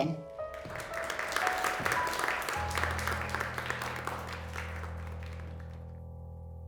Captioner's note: enchanting music; audience applauding